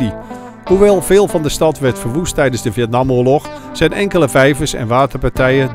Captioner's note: voiceover